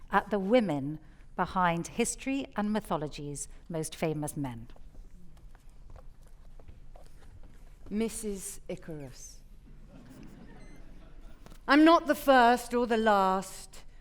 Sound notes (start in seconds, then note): 9.8 audience chuckling